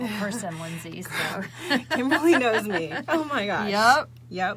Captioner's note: laughing